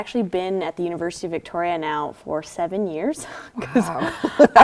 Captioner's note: laughter